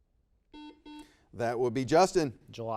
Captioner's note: buzzer beeps